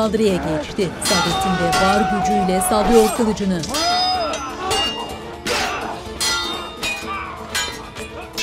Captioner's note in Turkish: Dövüş sesleri